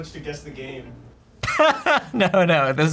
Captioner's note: laughs